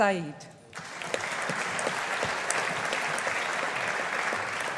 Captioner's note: audience applauding